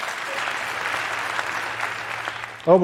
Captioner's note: applause